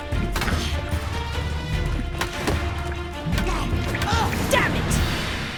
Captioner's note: both grunting, groaning